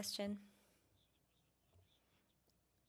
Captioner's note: speaking French